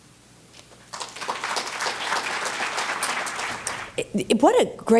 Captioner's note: applause